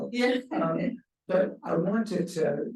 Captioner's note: chuckles